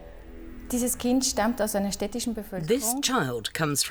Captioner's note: speaking German